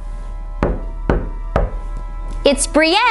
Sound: knocks on door

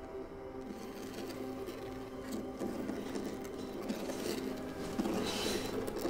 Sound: soft dramatic music; scraping

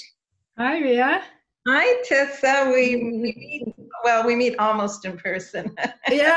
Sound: laughs

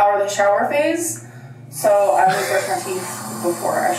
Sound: water rushing

